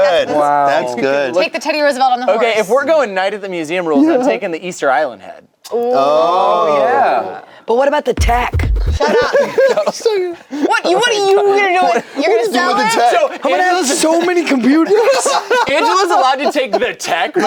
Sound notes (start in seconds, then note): 8.7 laugh; 15.2 laughs